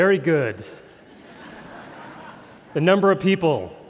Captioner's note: crowd chuckling